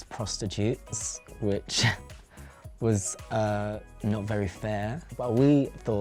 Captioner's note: scoffs